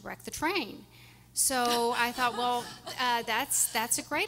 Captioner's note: everyone laughing